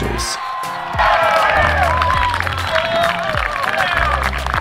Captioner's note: audience cheering